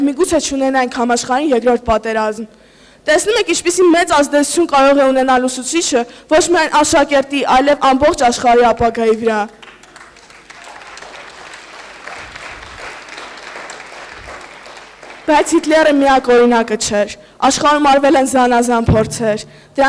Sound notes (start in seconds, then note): 9.5 applause